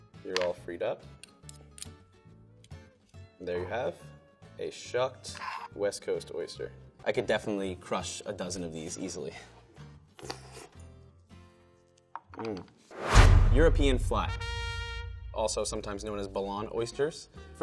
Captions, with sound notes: You're all freed up and there you have a shucked West Coast oyster. I could definitely crush a dozen of these easily. [mouth slurping] Mm. [dramatic drum beat] European Flat. [ta da trumpet] Also sometimes known as Belon oysters.